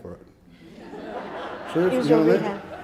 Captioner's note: audience laughing